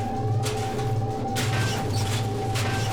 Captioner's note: metallic squealing